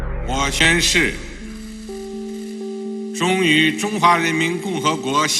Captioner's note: speaking in foreign language